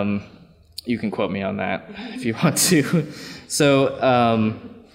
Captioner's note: laughs